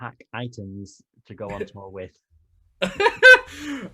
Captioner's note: laughter